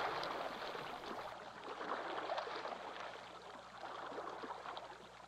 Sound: water burbles

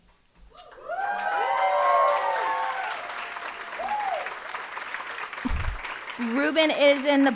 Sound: audience applauding and cheering

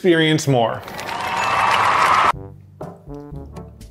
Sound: recorded applause; suspenseful music

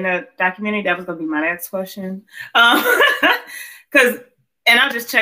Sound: laughs

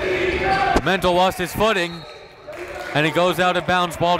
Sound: whistle blows

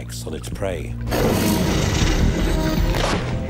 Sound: snarling

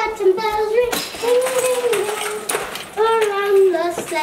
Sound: singing Christmas songs; ornaments clanging

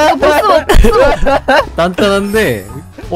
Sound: laughing

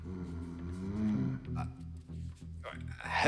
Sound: disapproving growl

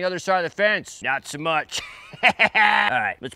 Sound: laughs

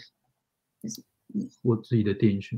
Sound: speaks mandarin

